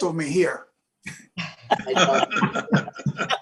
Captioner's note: laughter